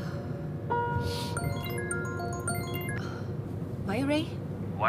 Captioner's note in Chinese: 電話鈴聲